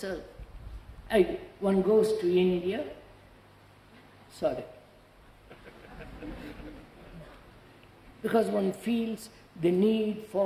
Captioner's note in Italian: risate